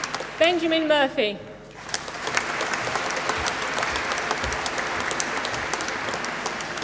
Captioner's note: applause